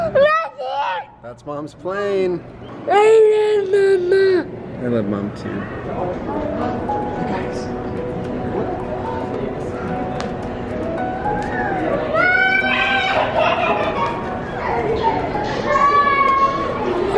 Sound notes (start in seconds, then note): 7.1 sweet music; 12.7 laughing